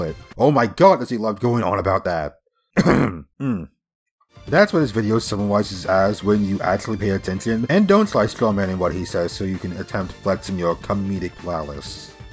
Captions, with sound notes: Oh my god! Does he love going on about that! (clears throat) That’s what his video summarizes as when you actually pay attention and don’t try strawmanning what he says so you can attempt flexing your “comedic prowess”.